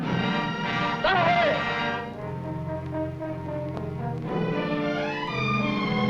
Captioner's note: man shouting in foreign language